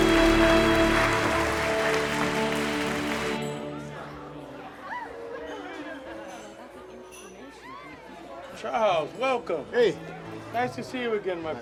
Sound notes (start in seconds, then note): 3.9 background chattering